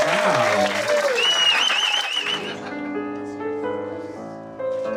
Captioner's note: audience cheers